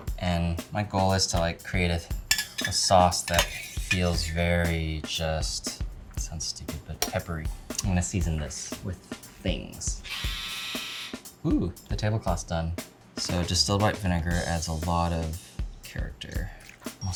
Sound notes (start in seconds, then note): 10.0 clothes dryer buzzes